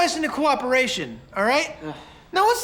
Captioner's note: dennis groans